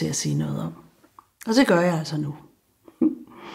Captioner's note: chuckles